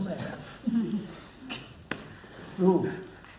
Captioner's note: laughs